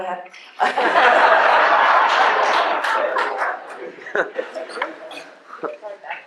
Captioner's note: laughter